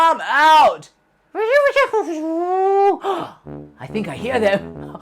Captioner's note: speaking elvish